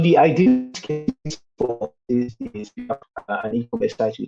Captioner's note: audio distorted